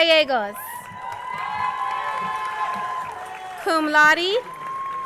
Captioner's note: crowd cheering and applauding